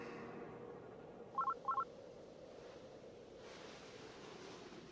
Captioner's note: phone beeps